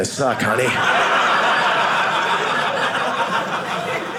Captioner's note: audience laughing